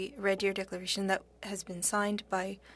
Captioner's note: speaking French